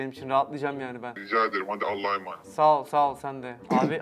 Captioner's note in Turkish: Telefon